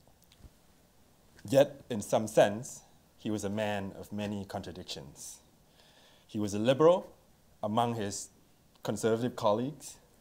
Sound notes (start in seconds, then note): none